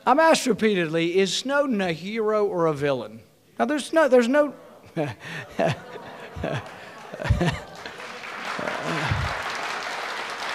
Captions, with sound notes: I'm asked repeatedly, is Snowden a hero or a villain? Now there's no-- (audience grumbling) (chuckles) (audience applauding)